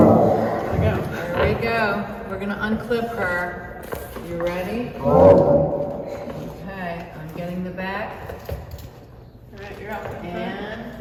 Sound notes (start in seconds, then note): 5.0 dinosaur roar